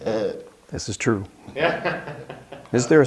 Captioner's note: laughs